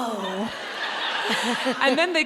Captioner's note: audience laughing